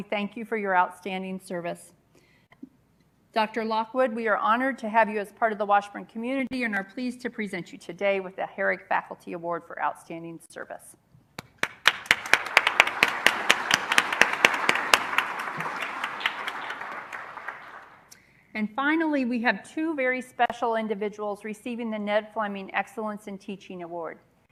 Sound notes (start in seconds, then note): 11.4 applause